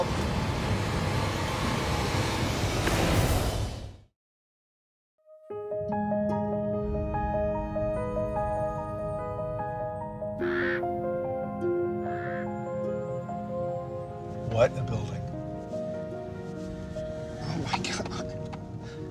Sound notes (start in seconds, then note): 6.5 soft eerie music; 10.4 bird cawing